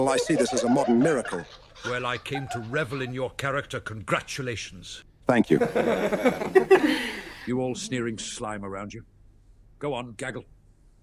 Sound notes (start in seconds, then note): 5.5 audience laughing